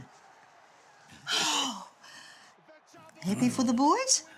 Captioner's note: sighs